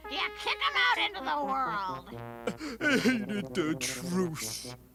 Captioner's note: crying